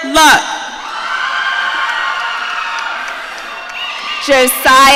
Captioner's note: audience cheering